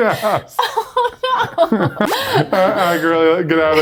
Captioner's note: laughs